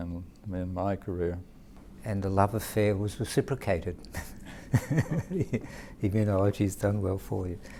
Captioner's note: chuckle